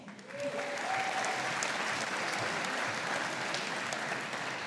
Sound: audience applauding

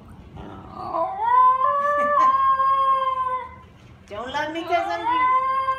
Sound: Ginger barooing

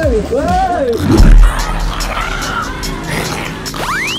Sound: zombie gurning; zombie screaming

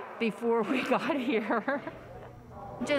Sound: laughter

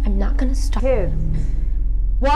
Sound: mom yells 'Kids'

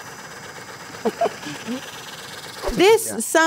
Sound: giggling

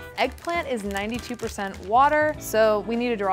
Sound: none

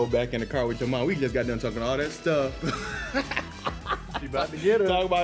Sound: laughs

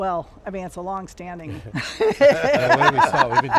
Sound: laughing

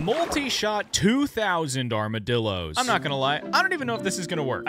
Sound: none

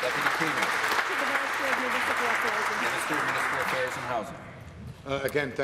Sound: applause

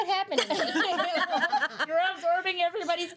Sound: girls laughing

